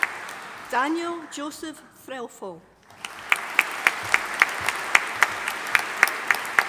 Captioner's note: audience applauding